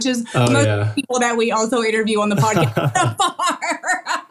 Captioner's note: laugh